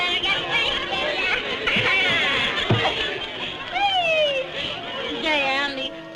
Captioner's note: laughs